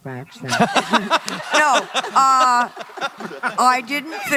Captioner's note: laughter